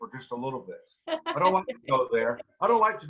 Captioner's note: laughing